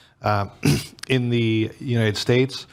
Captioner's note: clears throat